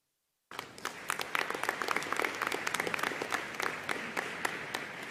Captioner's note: audience applauding